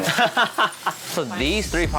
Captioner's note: laughs